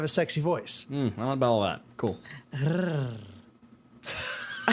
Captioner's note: purr-Growl